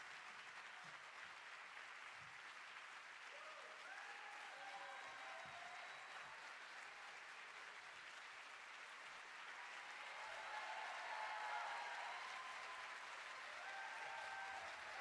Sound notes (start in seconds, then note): 3.3 audience cheering